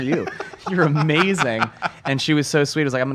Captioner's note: laughs